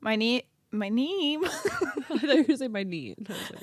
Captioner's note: both laugh